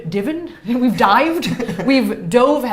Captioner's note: laughs